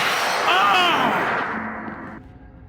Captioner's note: Skull yells